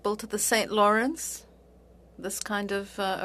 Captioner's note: speaking French